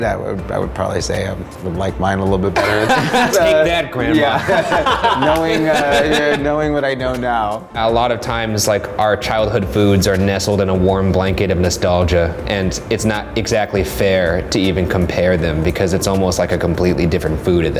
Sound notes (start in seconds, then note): 2.6 laughs loudly